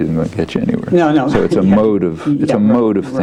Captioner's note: laughs